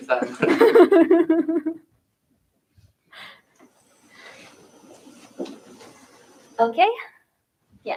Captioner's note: laughter